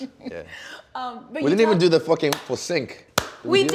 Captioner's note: clapping